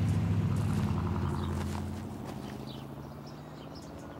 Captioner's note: car rumbles